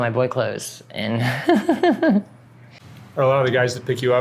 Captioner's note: laughs